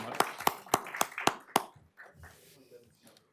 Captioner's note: applause